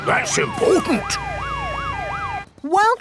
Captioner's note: sirens wailing